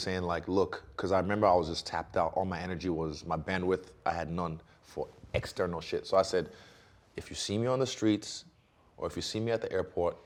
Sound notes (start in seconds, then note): none